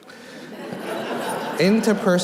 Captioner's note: audience laughing